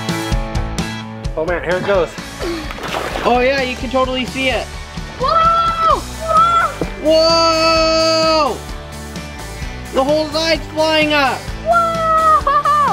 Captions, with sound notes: (upbeat music) Oh man, here it goes. Oh yeah you can totally see it! (yelling) Whoa! The whole side's flying up! - Whoa, whoa!